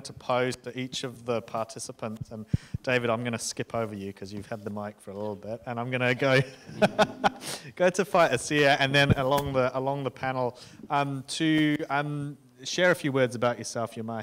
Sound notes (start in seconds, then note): 6.4 laughs